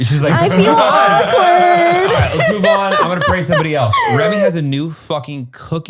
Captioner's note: laughing